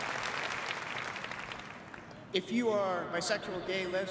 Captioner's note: applause